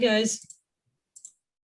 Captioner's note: click, click